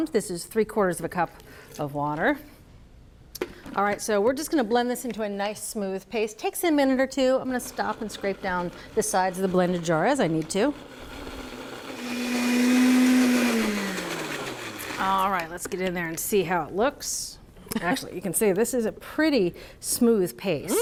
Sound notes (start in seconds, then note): 11.1 blender whirring